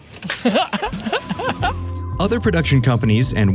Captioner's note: laughter